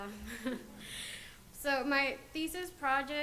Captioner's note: audience laughs